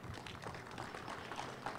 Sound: applause

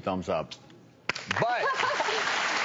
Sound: crowd applauds

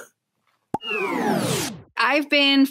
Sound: pop sound; pop and time pause sound

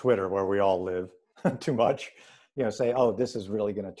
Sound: laughs

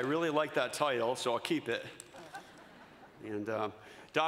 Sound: laughter

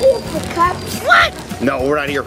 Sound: cartoon Voice

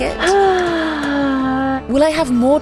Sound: sighing

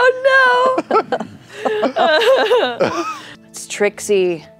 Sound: laughter

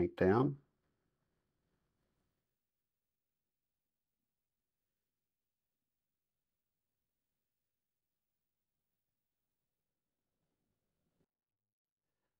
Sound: silence

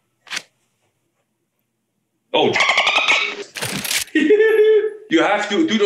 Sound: laugh

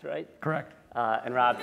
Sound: laughter

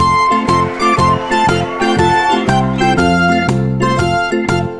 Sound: audience cheering

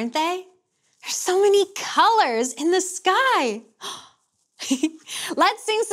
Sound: chuckles

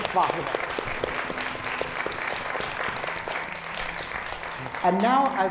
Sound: applause

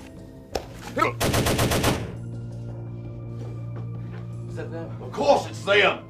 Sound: man groaning; gun firing

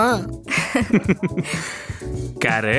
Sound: both giggle

